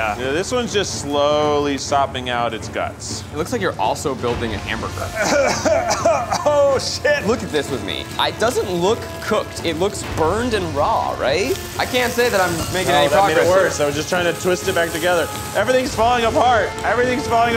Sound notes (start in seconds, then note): 5.1 coughing